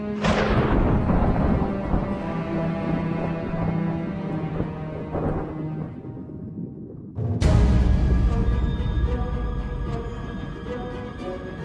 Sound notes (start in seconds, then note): 0.1 thunder claps; 7.1 daunting music